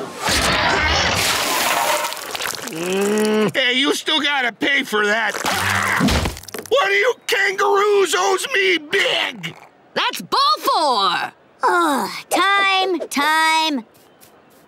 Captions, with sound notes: [groaning] Hey, you still gotta pay for that. One of you kangaroos owes me big! -That's ball four! -Ugh, time, time.